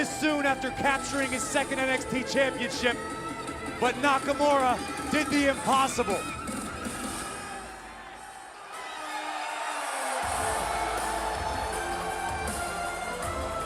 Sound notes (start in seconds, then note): 6.4 crowd cheering